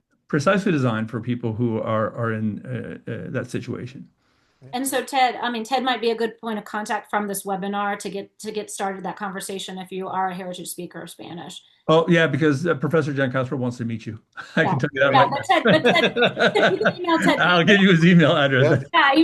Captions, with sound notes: precisely designed for people who are in that situation. - And so Ted, I mean Ted might be a good point of contact from this webinar to get started that conversation if you are a heritage speaker of Spanish. - Oh yeah, because Professor Giancaspro wants to meet you. I can give you that email address. (laughing) - Email Ted- - I'll give you his email address.